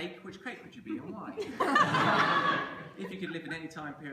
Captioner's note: laughter